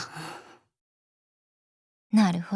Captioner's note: silence